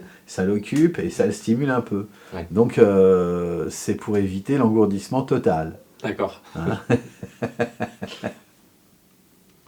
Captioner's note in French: rires